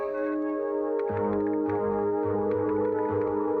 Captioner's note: keyboard clicking